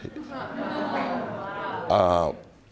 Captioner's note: audience murmuring